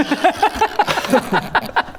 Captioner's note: sabotaging laughter